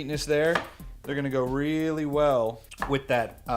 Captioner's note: banging